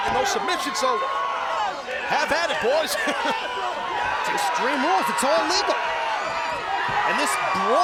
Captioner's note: laugh